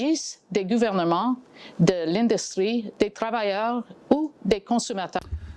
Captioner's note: speaking in French